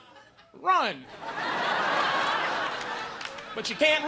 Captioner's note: audience laughing